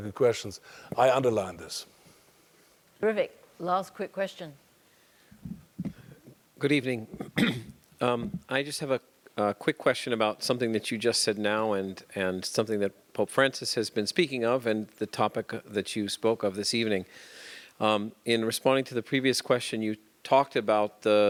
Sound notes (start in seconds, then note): 7.1 cough